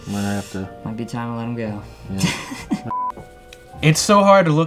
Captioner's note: laughs